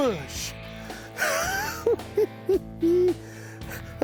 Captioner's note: chuckles